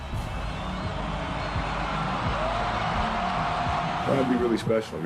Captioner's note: crowd cheering